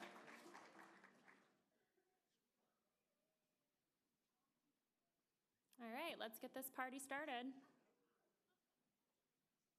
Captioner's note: applause